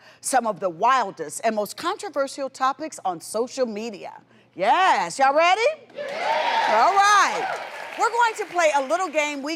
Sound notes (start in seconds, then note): 6.0 audience cheering